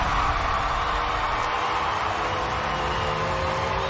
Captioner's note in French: applause